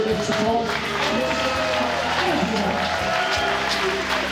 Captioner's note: crowd cheering, clapping